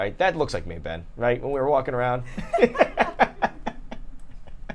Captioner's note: laughing